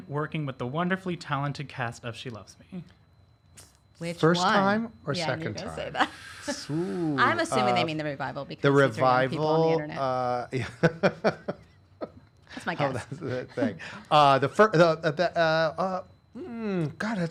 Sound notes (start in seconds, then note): 6.6 laughing; 10.5 laughing; 15.5 stammers